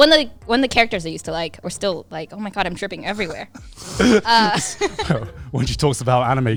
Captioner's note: laughs